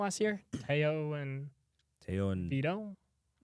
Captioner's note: clears throat